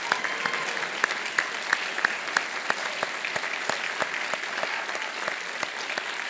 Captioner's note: applause